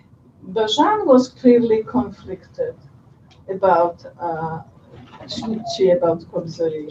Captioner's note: non-english speech